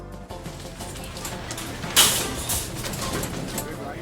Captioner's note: shoppers clanging